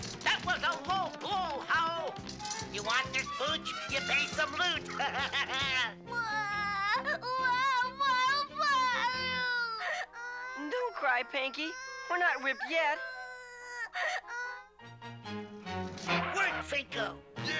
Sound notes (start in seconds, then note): 3.6 laughs; 6.1 crying